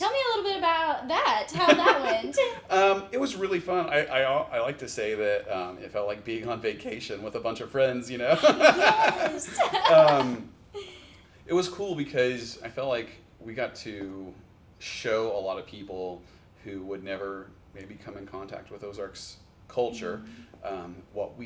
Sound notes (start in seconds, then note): 1.5 laughs; 8.3 laughs